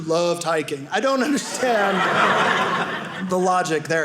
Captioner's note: audience laughing